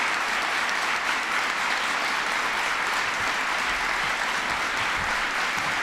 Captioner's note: applause